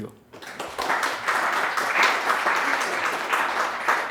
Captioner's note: audience applause